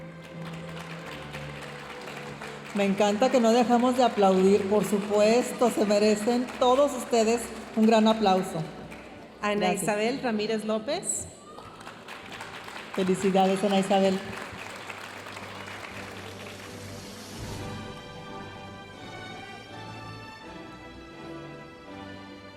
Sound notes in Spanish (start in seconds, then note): 0.3 aplausos de la audiencia; 14.6 aplausos de la audiencia; 17.3 continúa la música majestuosa suave en el fondo